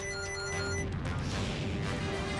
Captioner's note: beacon rings